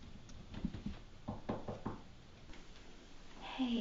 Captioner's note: knocking